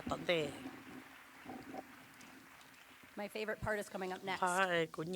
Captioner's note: applause